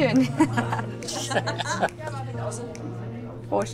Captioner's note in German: Beide lachen